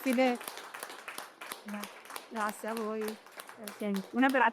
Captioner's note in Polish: Aplauz